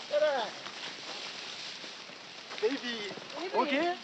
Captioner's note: speaking Japanese